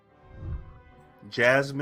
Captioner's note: whooshing